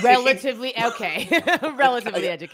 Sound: laughs

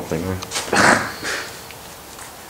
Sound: snigger

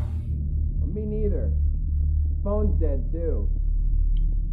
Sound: muffled voice

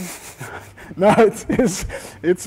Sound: both laughing

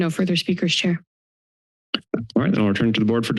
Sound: silence

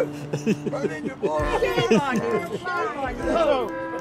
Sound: laughing

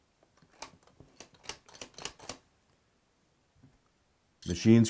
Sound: lock clicking

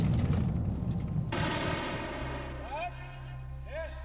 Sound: explosions; speaking in a foreign language

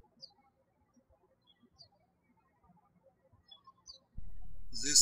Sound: bird chirping

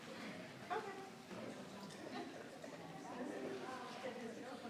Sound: people chattering

